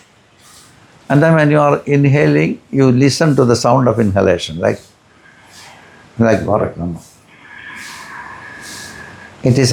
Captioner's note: breathing